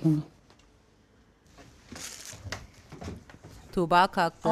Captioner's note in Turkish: Ayak sesi